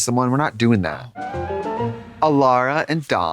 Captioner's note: whimsical chime